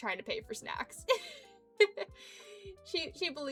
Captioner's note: giggling